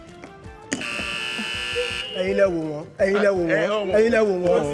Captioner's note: buzzer pressed